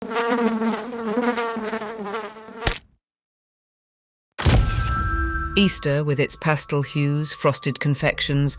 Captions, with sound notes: (fly buzzing) (fly splatting) (upbeat music) Easter, with its pastel hues, frosted confections